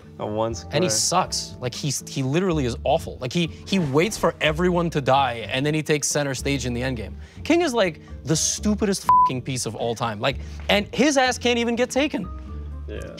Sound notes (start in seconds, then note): 9.0 beep